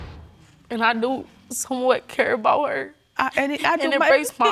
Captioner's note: voice breaking